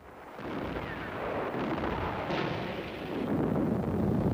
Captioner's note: cannons fire